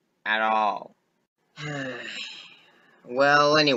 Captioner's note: sigh